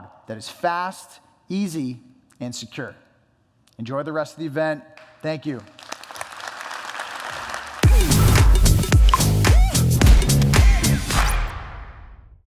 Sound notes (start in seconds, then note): 5.6 applause; 7.8 techno music